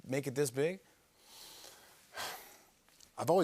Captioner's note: breathes deeply